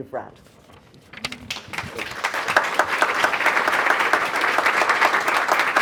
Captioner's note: audience applause